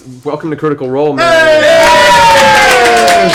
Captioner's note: cheering